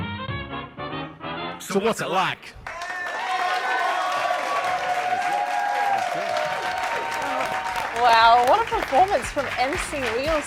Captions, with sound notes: So what's it like? [applause] [cheers] -Wow. What a performance from MC Wheels.